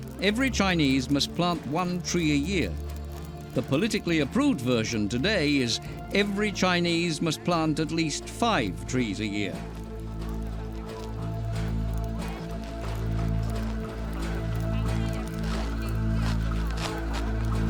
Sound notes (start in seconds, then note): 11.5 fire crackling